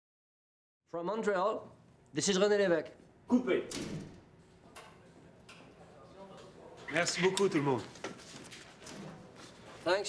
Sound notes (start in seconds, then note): 3.6 man speaks French; 7.2 Claude speaks French